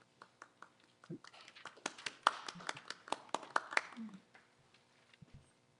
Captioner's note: applause